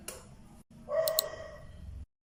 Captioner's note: mouse click